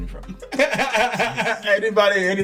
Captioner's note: laughing